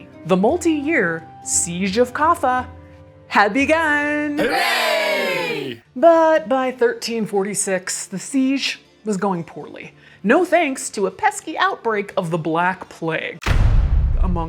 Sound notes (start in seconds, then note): 4.4 crowd